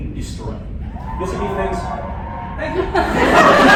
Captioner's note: cheering from other room; laughter